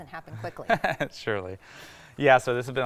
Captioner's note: laughing